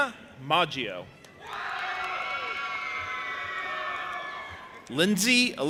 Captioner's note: audience applauding and cheering